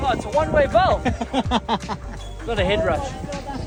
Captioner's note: laughing